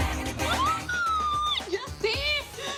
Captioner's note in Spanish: Exclamación